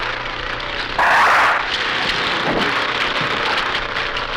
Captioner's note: doors whoosh